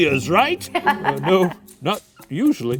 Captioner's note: laughing